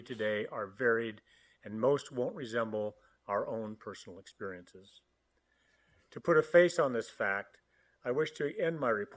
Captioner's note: audio cutting out